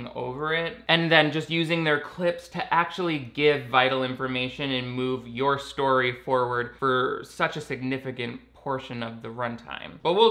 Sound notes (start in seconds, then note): none